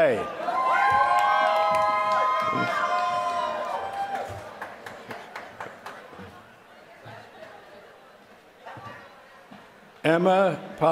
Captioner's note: applause